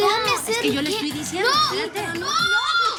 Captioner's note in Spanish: Hablan al unísono